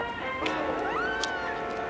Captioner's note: woman squeals playfully